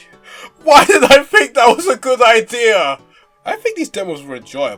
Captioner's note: says while laughing